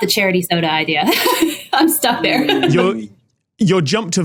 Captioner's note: laughs